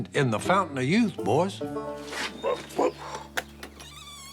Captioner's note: grunting